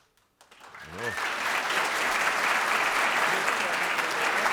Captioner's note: applause